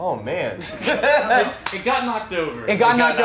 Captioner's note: movers laughing